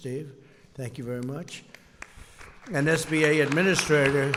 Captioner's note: applause